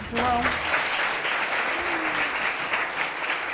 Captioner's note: audience applauding